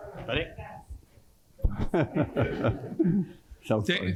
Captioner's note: laughs